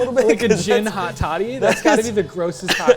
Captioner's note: laughing